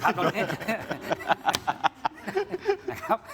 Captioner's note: laughs